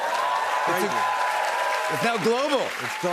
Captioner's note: cheers and applause